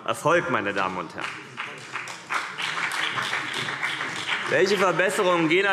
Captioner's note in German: Beifall CDU und BÜNDNIS 90/DIE GRÜNEN